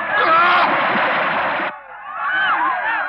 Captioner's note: yelling